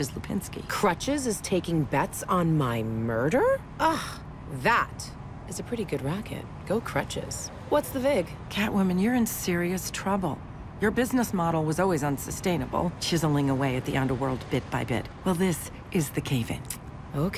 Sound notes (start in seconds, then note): 3.3 scoffs